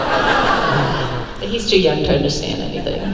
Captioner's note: crowd laugh